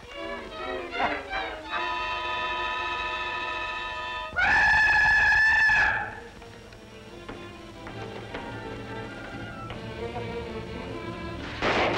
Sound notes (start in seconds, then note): 1.8 whistling; 9.3 gunshots